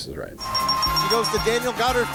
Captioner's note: bells dinging